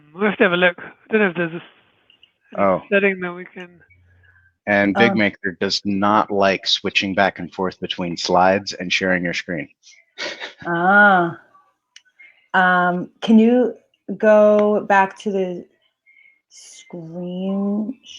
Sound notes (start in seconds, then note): 10.2 chuckles